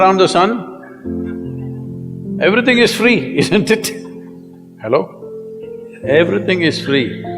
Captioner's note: laughs